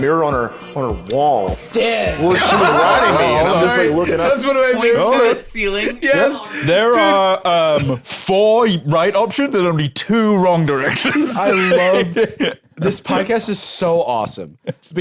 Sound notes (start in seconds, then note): 2.2 laughs